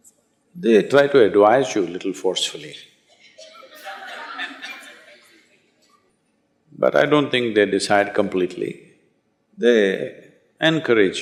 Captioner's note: applause